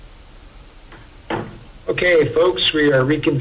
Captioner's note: gavel bangs